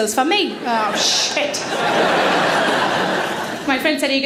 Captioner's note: audience laughing